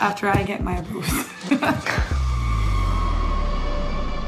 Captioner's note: laughs